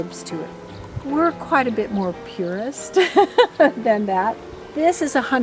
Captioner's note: laughs